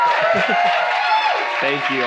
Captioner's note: audience applauding